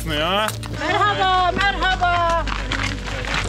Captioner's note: woman speaks Turkish